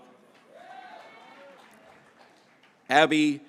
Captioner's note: graduates cheering